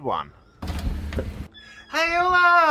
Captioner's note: door clicks and squeaks